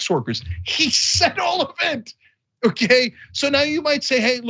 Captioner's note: laugh